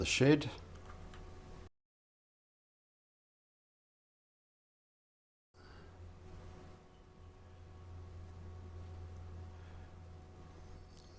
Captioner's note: silence